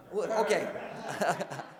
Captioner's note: laughs